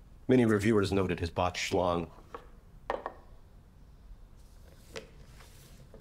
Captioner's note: bobblehead thumping